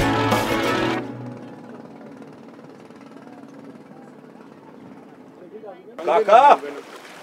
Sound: approaching sound of engine

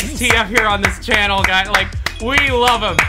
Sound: claps

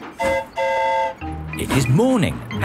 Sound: train whistle toots; mimics train whistle

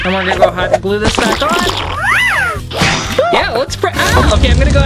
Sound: sound effects

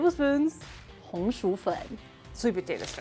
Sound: speaking in mandarin; speaking in mandarin

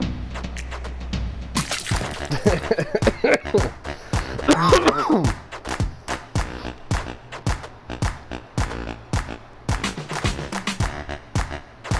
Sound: laughing, coughing, choking

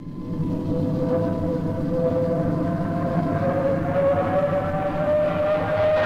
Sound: craft humming; engine accelerating

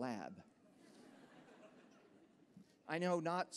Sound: laughter

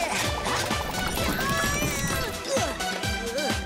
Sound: shouting

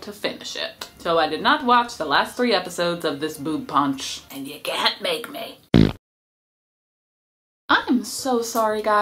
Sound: fart noise

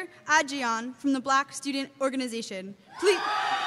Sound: cheers

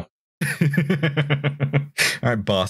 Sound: laughter

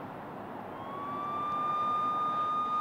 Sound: sirens

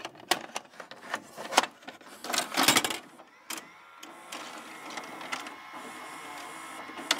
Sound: VCR machine whirring and start up sounds

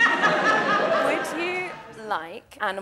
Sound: audience laughter

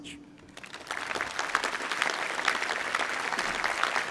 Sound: audience applauds

